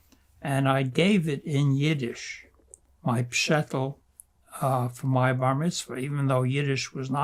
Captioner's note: yiddish